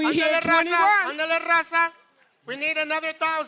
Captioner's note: non-english speech